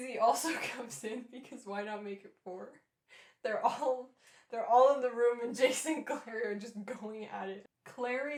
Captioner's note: laughing